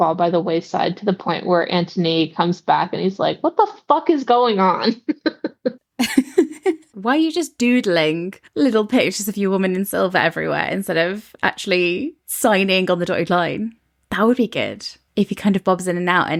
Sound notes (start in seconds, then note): 6.0 laughing